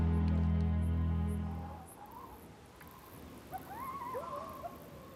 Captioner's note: birds singing